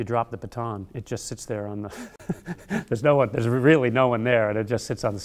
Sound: laughter

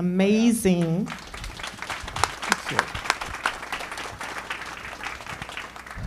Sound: applause

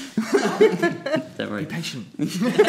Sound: group chuckling; group laughing

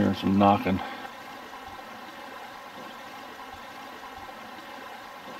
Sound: burbling water

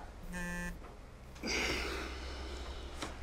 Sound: sighs

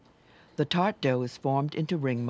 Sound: voiceover

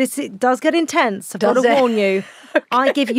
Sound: laughs

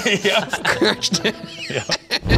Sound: laughing

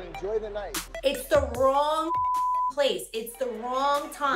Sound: beep

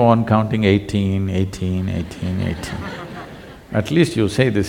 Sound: laughter

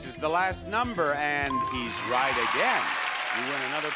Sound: audience clapping

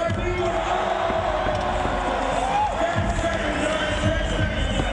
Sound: crowd goes wild

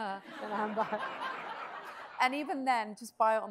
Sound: audience laughs

